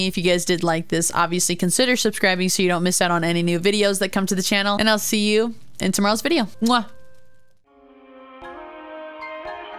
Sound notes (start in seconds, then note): 6.6 kiss